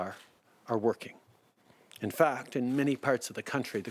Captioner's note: speaking French